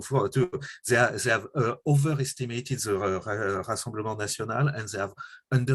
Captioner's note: french